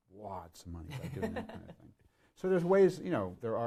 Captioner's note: laughs